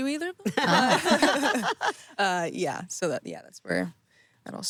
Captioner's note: everyone laughing